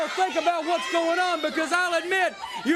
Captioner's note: crowd chatter